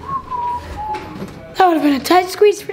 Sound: whistles

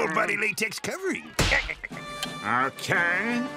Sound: laughing

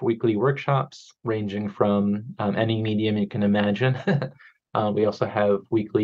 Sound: chuckles

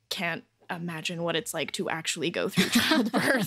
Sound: laughter

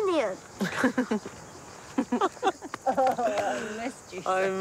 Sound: chuckles

